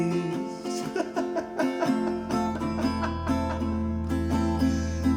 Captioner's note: Mr. Smiles chuckling